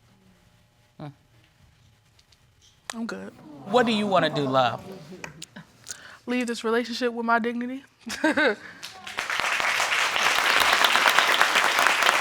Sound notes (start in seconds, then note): 8.4 chuckles; 8.8 audience applauding